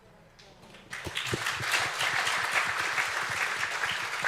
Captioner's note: audience applauds